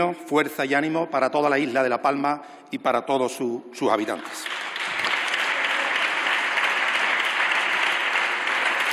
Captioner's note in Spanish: Aplausos